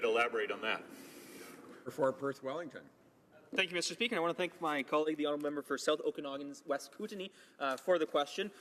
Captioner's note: none